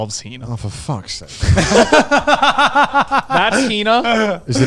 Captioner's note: laughs